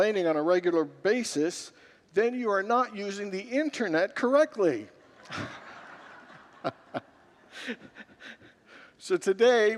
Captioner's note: congregants laugh